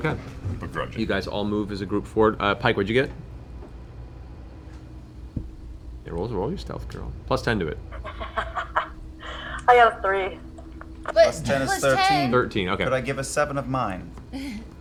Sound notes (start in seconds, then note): 7.8 laughs